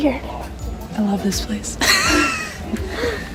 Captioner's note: laughs